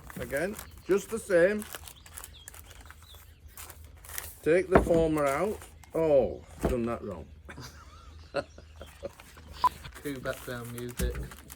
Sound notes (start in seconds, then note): 7.4 laugher